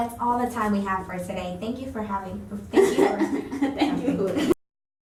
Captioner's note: laughs